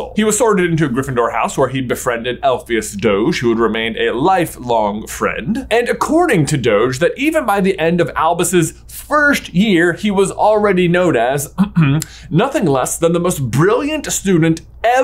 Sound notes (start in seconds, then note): 11.5 coughs